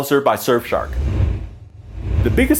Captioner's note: air whooshing